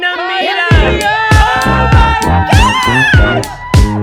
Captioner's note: all cheering; upbeat music